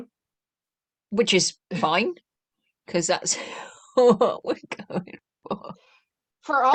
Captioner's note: laughing